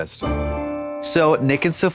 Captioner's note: bright chime